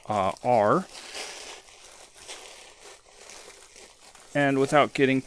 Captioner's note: creaking of packing peanuts